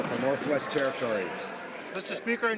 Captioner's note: some Applause